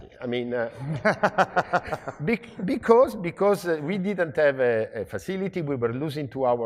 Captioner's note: laugh